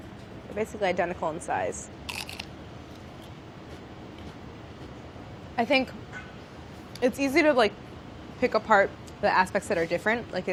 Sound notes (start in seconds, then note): 2.1 chip crunching